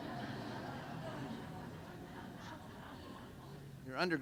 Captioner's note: laughter